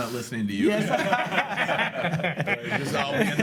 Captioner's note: laughs